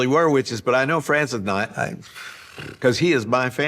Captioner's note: sighs